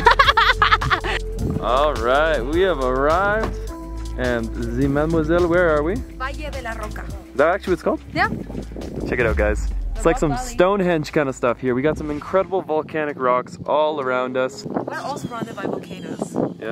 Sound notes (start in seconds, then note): 0.0 woman laughing; 6.6 speaks foreign language